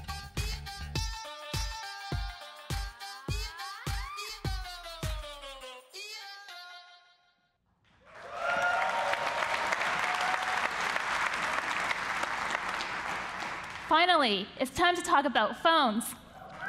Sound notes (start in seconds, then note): 8.0 audience cheering and applauding